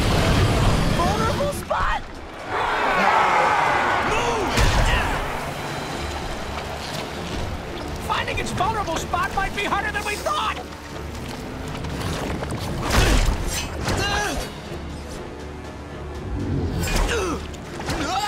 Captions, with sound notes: Vulnerable spot? Move! Finding its vulnerable spot might be harder than we thought. [grunting] [grunting]